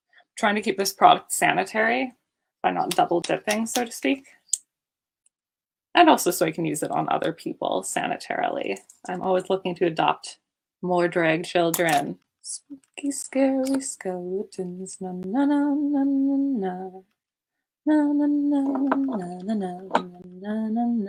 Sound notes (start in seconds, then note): 12.7 singing; 17.9 humming